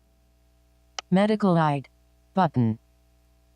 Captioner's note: automated Female Voice